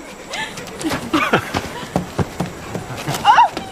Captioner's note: laughing